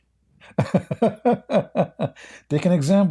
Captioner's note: Ketawa